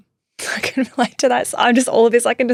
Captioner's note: chuckling